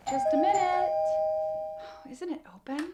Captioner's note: doorbell rings; sighs